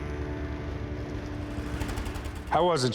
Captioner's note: engine stops